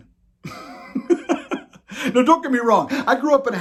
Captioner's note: laughs